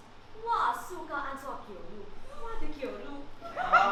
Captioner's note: Opal jeers in Hokkien